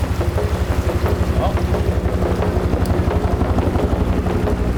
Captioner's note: chopper whirling